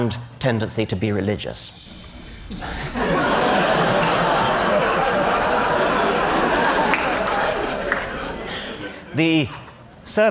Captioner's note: laughter